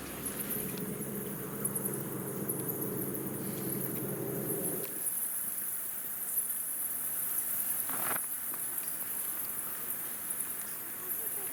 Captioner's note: bats squeaking